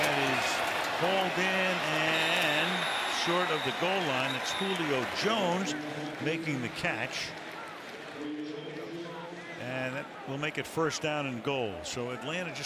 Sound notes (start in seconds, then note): 8.7 pa announcement